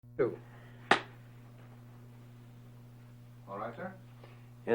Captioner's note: clap